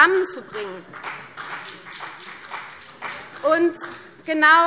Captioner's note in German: Vereinzelter Beifall CDU